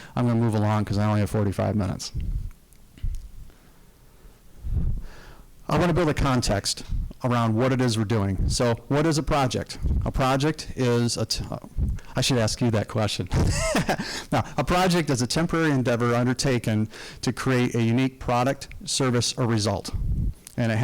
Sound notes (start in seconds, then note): 13.4 laughing